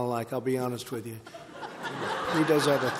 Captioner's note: laughter